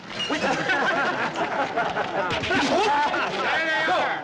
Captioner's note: crowd laughing